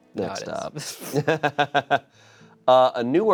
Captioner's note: laughs